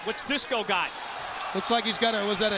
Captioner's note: crowd chatter